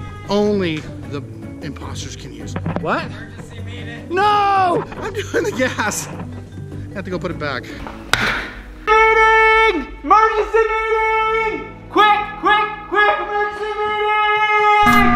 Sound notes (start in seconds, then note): 9.1 yelling; 14.8 loud tone